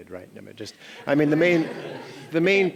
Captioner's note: laughing